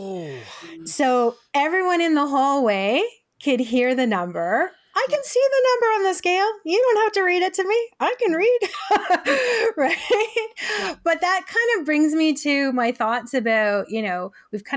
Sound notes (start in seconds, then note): 8.7 laughs